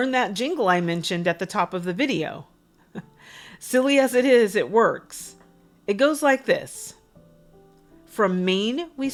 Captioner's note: chuckles